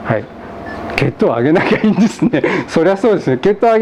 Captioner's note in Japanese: 笑い